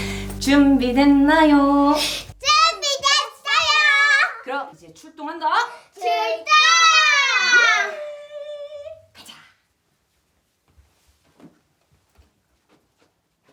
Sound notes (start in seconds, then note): 0.3 Yeon-su in singsongy tone; 5.8 Ji-hoon, Ji-in shouting together